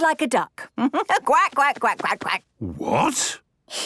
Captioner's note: quacks